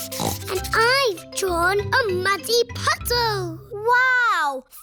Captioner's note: snorts